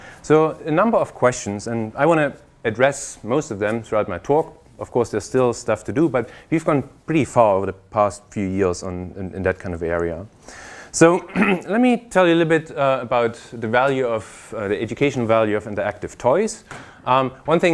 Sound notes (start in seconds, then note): 11.2 cough